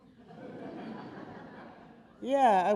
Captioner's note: audience laughing